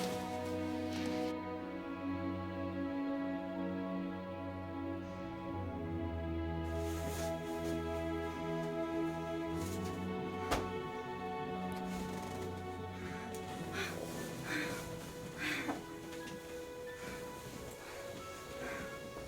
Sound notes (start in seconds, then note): 8.5 dramatic music continues; 15.0 women panting